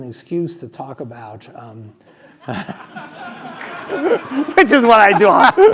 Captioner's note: laugh